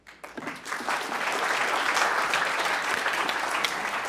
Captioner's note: audience clapping